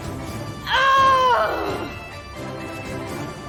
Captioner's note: furious Shout